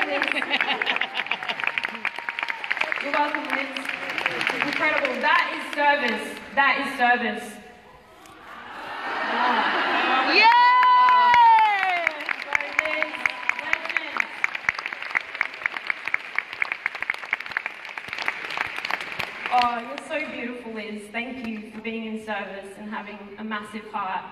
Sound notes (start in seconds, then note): 0.0 applause; 7.3 cheering